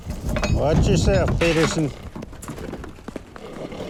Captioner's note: Samson snorting and huffing